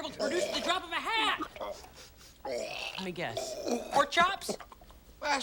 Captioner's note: sniffs